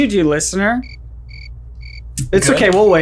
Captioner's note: crickets chirping